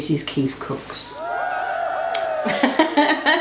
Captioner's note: cheering; laughs